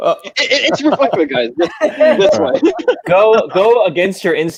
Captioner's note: laughing